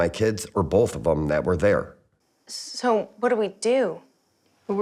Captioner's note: none